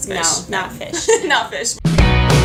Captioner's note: haha